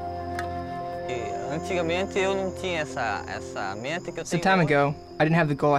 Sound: speaking in foreign language

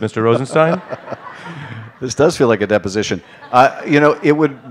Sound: laughter

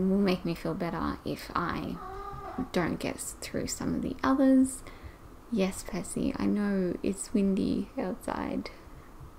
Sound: Percy meows

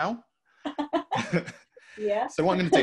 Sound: laughing

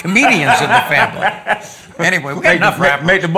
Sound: laughs

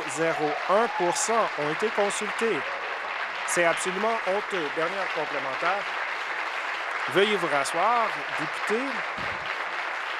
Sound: applause

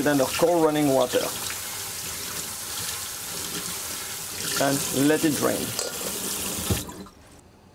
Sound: running water

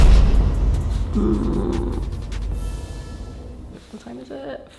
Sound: boom sound effect; groans

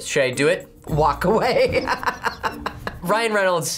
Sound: laughs

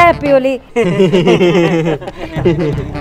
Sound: nervous giggles

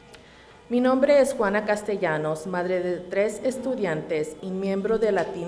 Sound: reading in Spanish

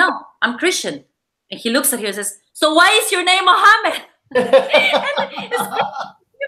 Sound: laughing

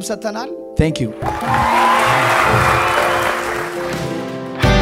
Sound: scream and applause

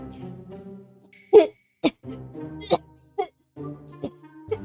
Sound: spitting food out sounds; cough

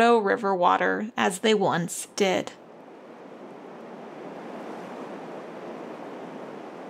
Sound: loud river roaring

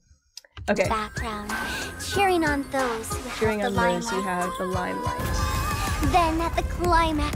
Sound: backround cheering on those who have the limelight

